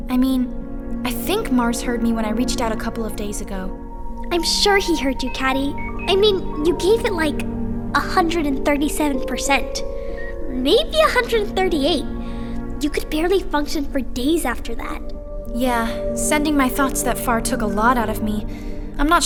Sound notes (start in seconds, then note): none